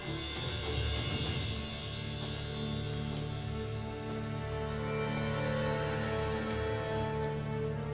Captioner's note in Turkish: Ateş çıtırtısı sesleri; Müzik - Gerilim